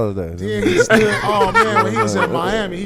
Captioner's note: laughing